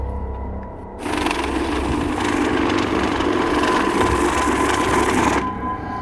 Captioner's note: money counting machine rumbling